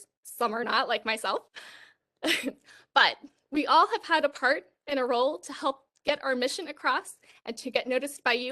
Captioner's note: laughter